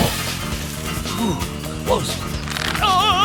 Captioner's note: grunting